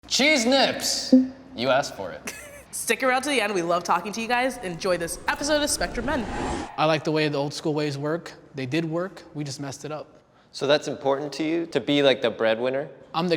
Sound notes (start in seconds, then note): 1.1 speech bubble pops; 2.2 woman laughs